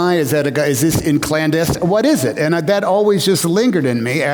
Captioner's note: none